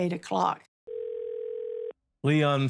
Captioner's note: phone ringing